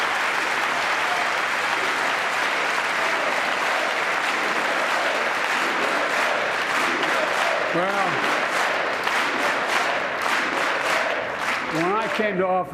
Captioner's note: applause